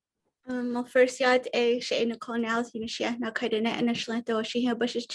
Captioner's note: speaks foreign language